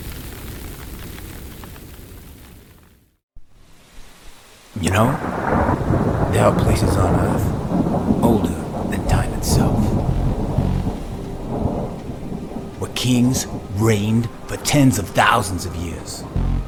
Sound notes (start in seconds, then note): 3.5 rain pitter-pattering; 10.7 suspenseful music